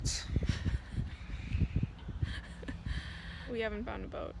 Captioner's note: laughing